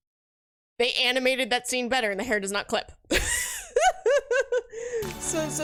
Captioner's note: laughs